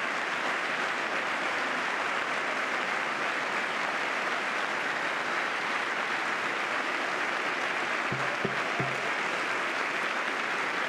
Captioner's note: applause